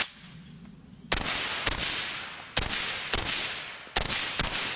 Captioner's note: gunshots firing